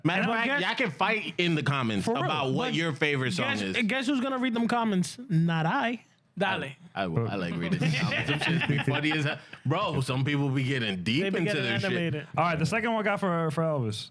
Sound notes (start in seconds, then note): 7.6 laughing